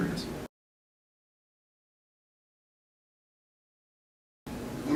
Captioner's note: silence